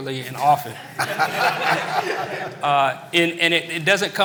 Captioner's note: laughter